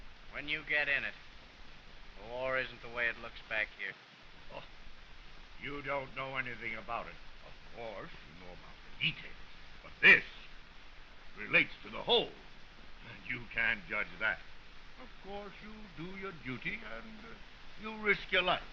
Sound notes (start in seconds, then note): 4.2 scoffs